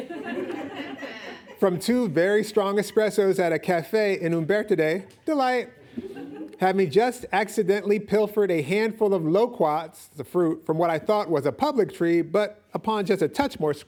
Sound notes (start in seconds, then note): 0.0 audience laughing; 5.7 audience laughing